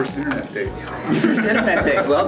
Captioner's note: laughs